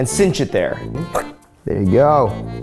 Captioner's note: squeaks